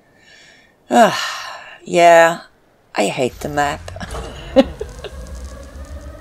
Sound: laughs

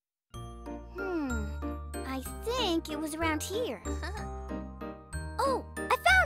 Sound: giggles

